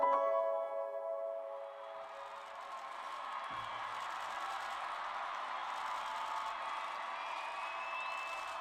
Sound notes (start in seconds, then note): 1.1 audience cheering; 1.6 audience applauding